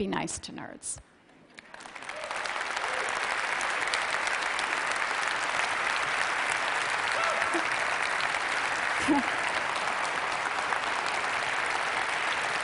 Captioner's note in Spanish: Aplausos